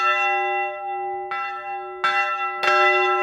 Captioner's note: loud, full bell tones